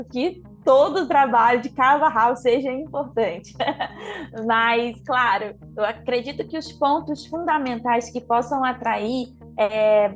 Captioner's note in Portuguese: risos